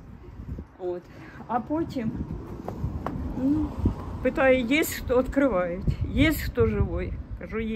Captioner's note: in Russian